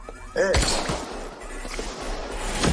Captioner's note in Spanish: Disparo